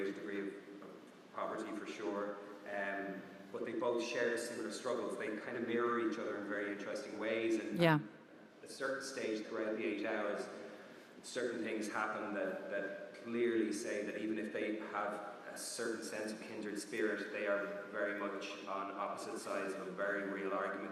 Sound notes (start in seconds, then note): none